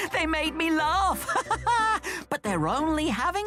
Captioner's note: thomas chuckles